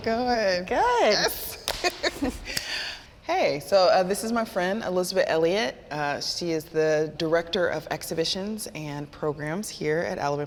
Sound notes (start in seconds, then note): 1.3 women laugh